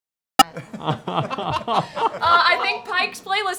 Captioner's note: laughter